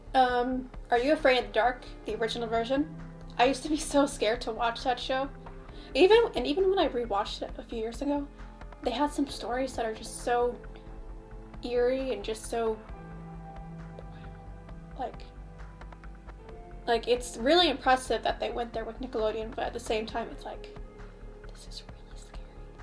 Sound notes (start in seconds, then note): 13.1 whispers; 21.1 whispers